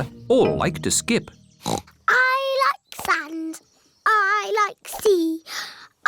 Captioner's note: oinks